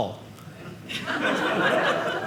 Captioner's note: audience laughing